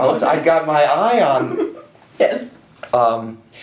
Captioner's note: chuckles